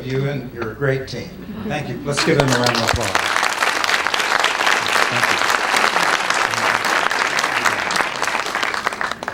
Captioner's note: applause